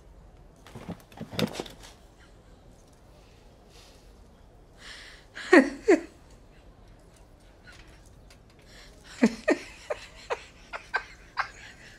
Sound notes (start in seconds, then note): 0.6 chair creaks; 5.4 Billie chuckles; 8.7 Billie laughs